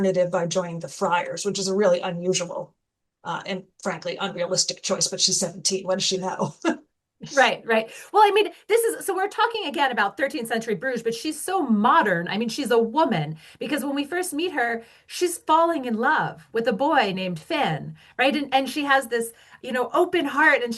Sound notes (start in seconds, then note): 6.6 laughs